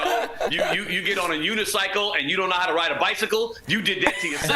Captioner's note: laughter